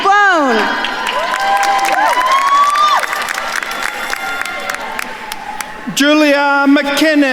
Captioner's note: attendees cheering and applauding